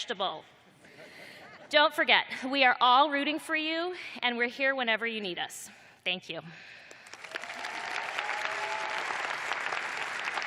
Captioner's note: cheers and applause